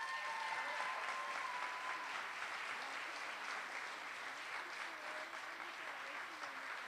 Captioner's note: applause